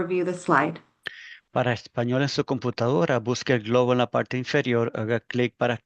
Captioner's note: interpreter speaking Spanish